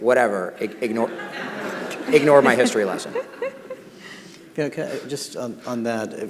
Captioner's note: audience laughing